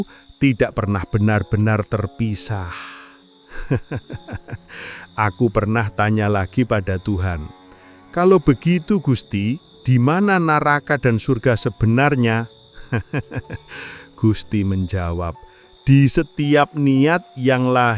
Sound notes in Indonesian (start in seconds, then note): 3.5 tertawa; 12.7 tertawa